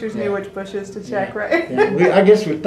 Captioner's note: laughs